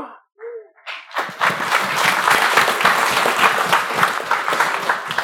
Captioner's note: applause